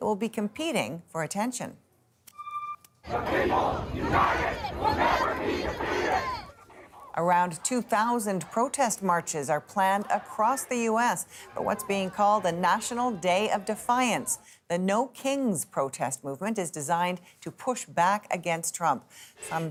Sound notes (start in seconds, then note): 8.2 chants